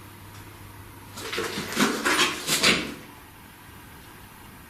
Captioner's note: rustling